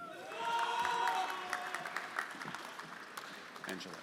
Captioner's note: friends cheering; everyone applauding